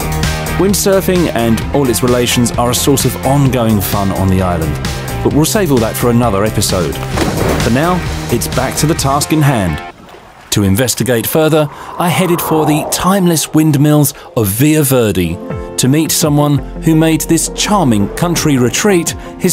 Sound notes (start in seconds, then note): 7.1 water splashing